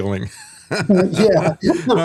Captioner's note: laughing